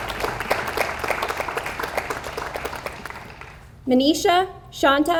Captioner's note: audience applauds